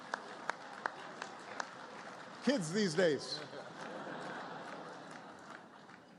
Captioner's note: laughter, applause